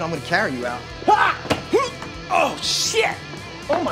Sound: grunting

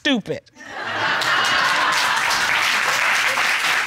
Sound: audience laugh

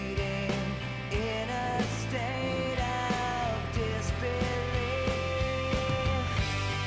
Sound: snores

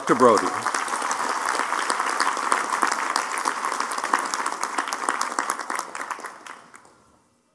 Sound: applause

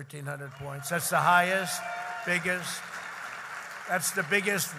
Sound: applause

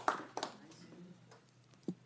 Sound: applause

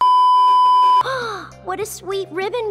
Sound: gasp

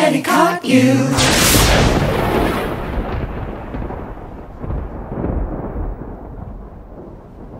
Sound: lightning cracking; thunder rumbling

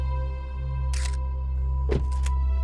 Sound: camera click

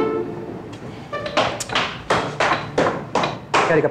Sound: footsteps

